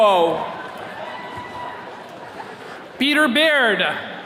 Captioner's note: attendee cheering